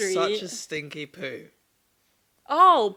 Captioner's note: none